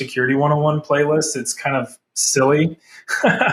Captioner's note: laughs